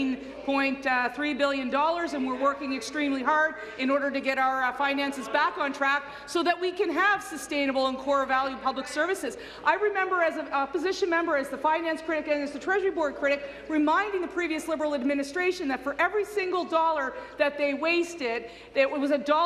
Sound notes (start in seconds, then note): none